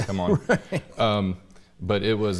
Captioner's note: laughing